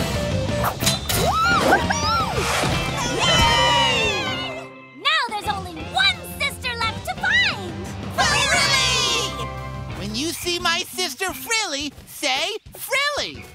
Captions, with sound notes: Woo hoo hoo! [cheering] Now there's only one sister left to find! Frilly! When you see my sister Frilly, say, Frilly!